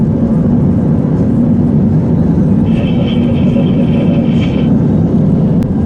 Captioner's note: laughs